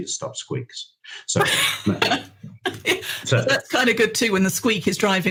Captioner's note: laughs